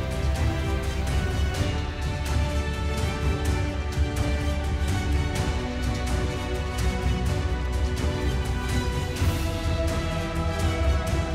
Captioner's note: applause